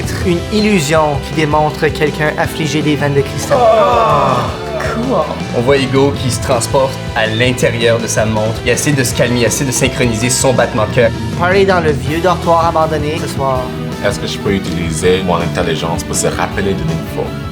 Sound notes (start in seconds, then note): 3.4 collective disgust